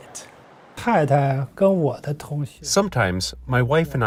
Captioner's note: speaking foreign language